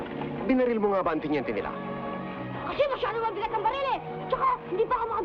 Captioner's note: people speaking in Tagalog